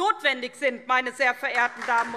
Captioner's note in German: Beifall SPD